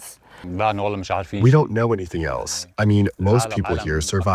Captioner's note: through translator